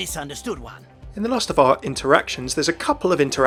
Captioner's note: voiceover